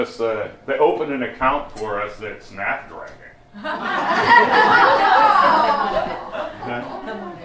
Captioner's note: laughter